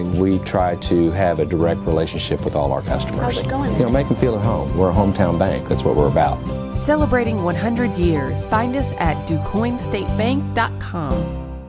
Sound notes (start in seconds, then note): 6.5 voiceover